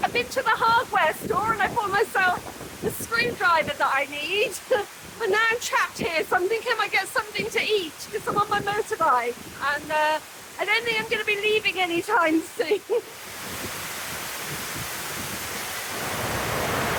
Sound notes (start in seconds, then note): 13.5 heavy rain